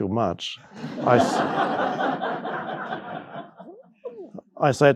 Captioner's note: audience laughing